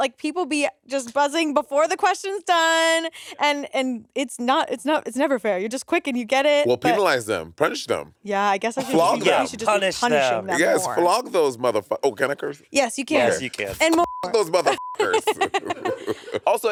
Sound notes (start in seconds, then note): 13.8 beep; 14.3 all laughing